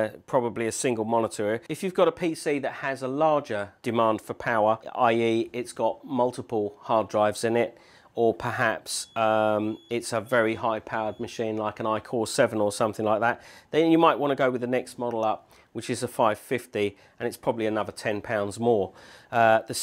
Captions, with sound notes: and probably a single monitor. If you have a PC that has a larger demand for power, i.e. it has multiple hard drives in it or perhaps [BEEP, BEEP, BEEP BEEP] a high powered machine like an i-Core 7 then you might want to go with the next model up. which is a 550, and its probably another £10.00 more